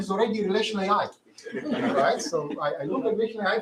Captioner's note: laughter